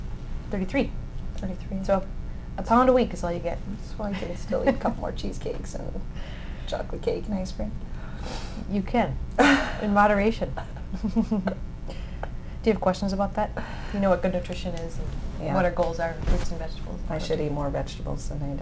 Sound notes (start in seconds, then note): 10.6 laughs